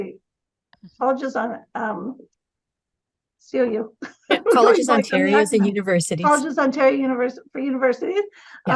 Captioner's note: laughing